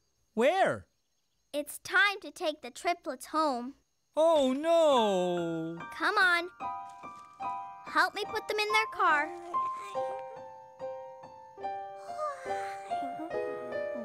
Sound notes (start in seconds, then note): 5.2 yawning